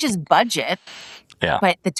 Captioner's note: laugh